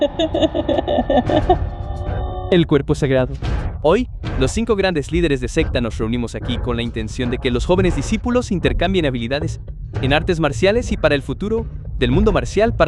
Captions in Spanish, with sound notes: [risas] El cuerpo sagrado. Hoy los cinco grandes líderes de secta nos reunimos aquí con la intención de que los jóvenes discípulos intercambien habilidades en artes marciales y para el futuro del mundo marcial